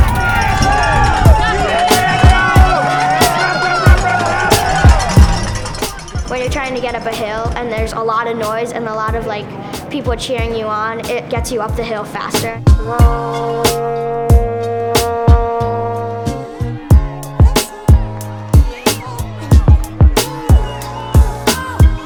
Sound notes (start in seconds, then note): 0.0 crowd cheering; 12.8 horn being blown; 16.9 cheering; 16.9 upbeat music